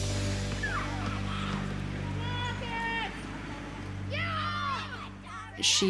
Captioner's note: children shouting to each other